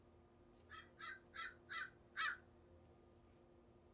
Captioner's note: bird cawing